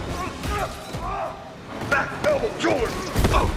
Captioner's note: bouncing groans of pain